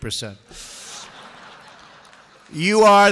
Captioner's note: laughter